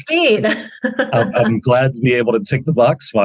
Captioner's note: chuckles